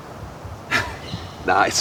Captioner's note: chuckle